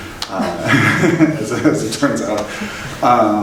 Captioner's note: laughing